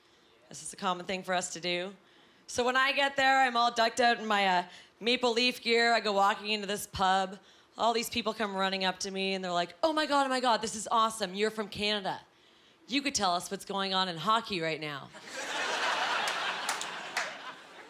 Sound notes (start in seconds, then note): 15.3 laughing